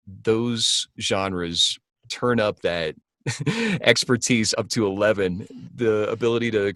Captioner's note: laughs